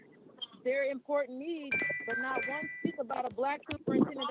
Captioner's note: chime